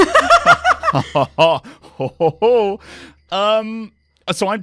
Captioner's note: laughter